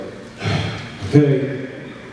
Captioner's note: sighs